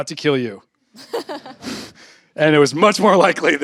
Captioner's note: laughter